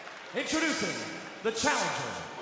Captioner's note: crowd cheering